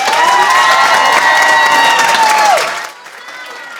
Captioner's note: cheering and applause